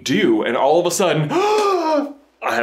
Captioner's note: dramatic gasp